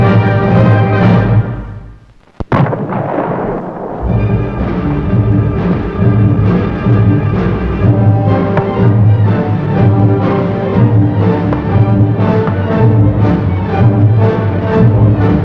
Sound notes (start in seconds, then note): 8.4 gunfire; 11.5 dramatic orchestral music